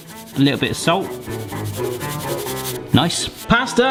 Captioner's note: salt shaker shaking